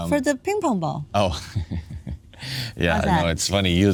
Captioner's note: laughing